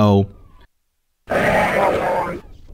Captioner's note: Arch-Vile death sound